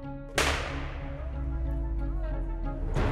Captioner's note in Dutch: Geweerschoten